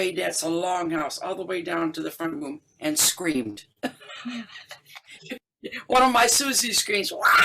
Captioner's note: laughter